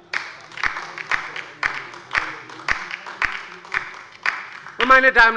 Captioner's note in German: Beifall bei der LINKEN